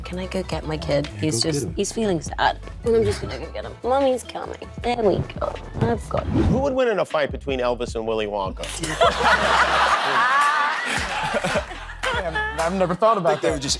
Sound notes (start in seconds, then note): 8.8 laughing